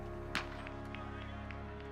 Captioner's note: distant cheering; gunshot